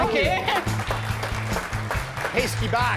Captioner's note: applause